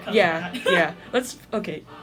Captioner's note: laughter